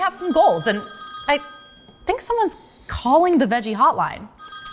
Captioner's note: phone rings